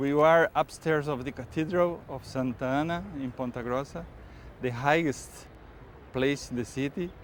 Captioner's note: German accent